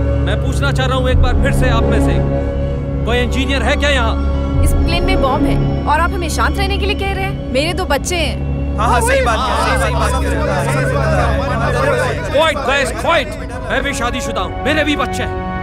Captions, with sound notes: I would like to ask once again, Is there any engineer on board? This plane has a bomb and you are asking us to be quiet? I have two kids. (Chaos amongst passengers) Quiet guys, quiet. I am also married, I also have kids.